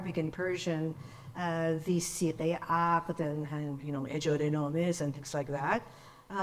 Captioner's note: speaks in foreign language